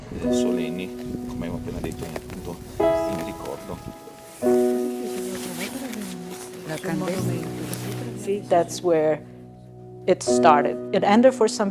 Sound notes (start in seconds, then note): 1.1 crowd member speaking in foreign language; 7.7 speaking in foreign language